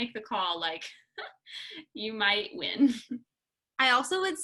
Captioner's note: laughter